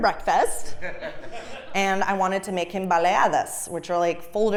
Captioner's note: laugh